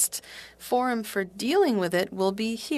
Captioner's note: speaking French